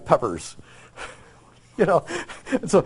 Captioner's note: laughs